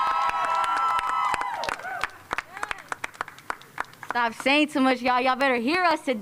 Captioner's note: cheers and applause